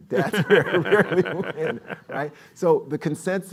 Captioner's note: laughs